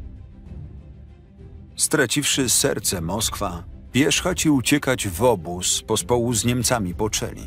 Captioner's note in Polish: Lektor